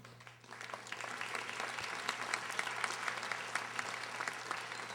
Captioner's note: audience applauding